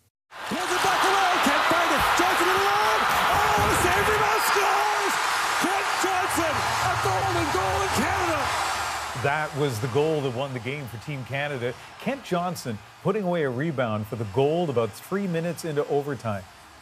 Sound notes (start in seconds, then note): 12.5 crowd noise